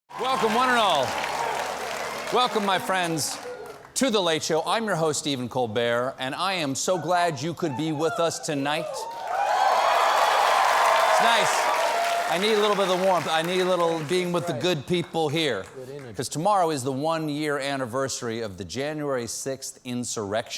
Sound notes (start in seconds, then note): 12.8 applause